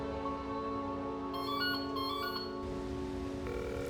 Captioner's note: ringing; line rings